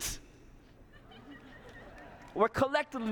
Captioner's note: laughter; cheering and applause